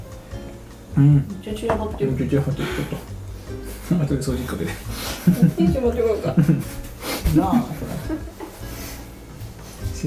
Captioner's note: laughs